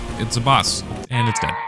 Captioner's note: Lego Yoda death sound